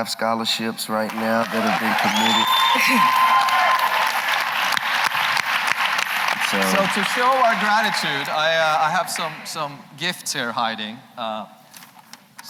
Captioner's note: applause